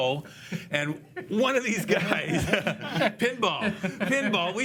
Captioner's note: loughs